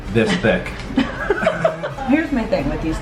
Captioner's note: laughing